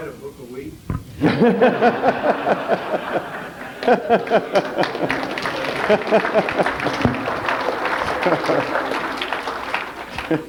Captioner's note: general laughter and a trickle of applause